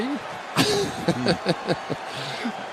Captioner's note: laughs